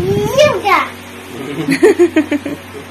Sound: mommy and Daddy laugh

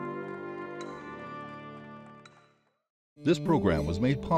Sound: hammer banging

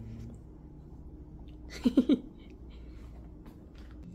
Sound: laughing

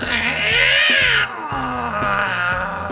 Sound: roaring

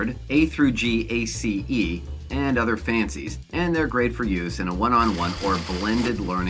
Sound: blender blending

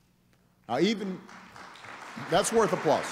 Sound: applause

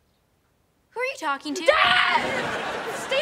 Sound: screams

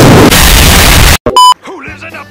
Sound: explosion; second explosion

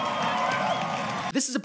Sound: applauds

